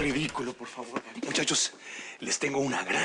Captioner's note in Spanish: Sonido al abrir la puerta